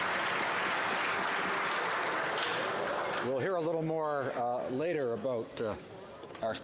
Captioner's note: applause